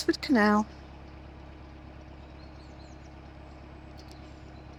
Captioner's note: sound of a train passing